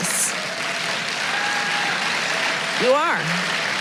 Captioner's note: applause